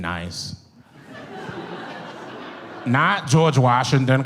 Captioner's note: audience laughs